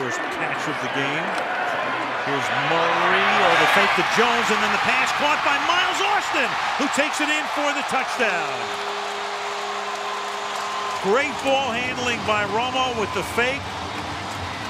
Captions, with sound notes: it's his first catch of the game. Here's Murray, they fake to Jones, and then the pass caught by Miles Austin, who takes it in for the touchdown. [air horn blows] Great ball handling by Romo with the fake.